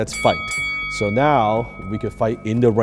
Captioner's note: bell rings